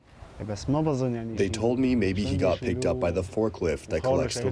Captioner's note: through translator